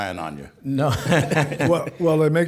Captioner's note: chuckling